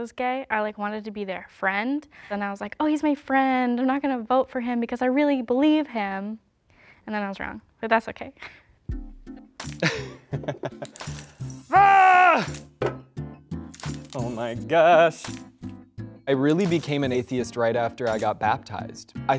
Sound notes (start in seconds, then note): 9.8 laughs